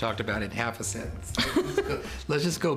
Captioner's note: laughter